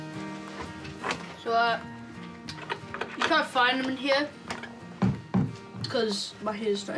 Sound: thud! thud!

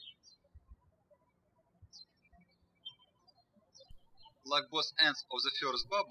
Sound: birds chirping

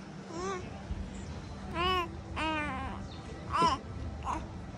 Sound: baby cooing

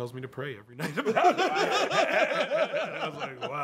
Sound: laughter

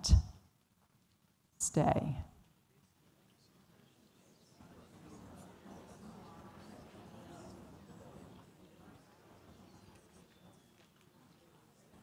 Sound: audience chatter

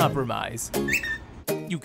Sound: whistling

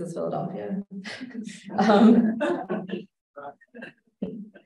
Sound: laughter

